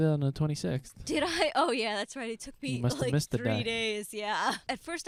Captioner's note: laughing